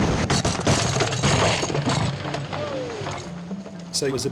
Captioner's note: boat cracking